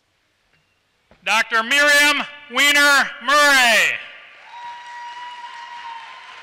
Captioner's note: applause